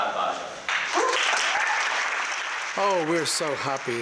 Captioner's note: applause